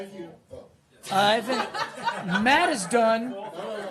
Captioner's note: laughter